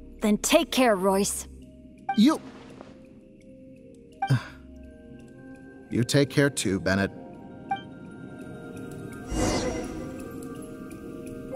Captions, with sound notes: then take care, Royce. You— *sigh* ...You take care too Bennett.